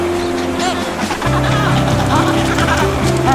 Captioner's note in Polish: terkotanie pingwinów